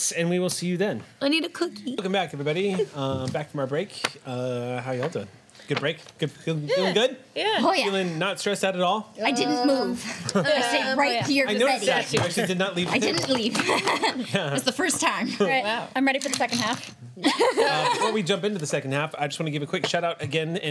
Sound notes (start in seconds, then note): 13.4 laughs; 17.2 laughs